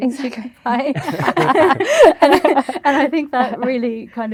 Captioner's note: laughter